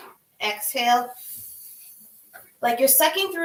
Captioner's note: exhales